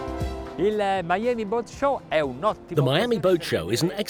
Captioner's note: speaking Italian